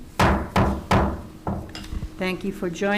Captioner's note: gavel banging